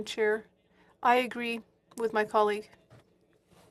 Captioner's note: speaking French